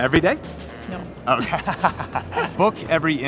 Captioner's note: laughing